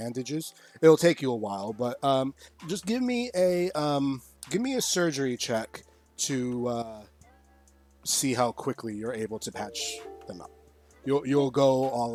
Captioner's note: another Alert Sound